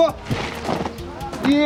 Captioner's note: steps; stomping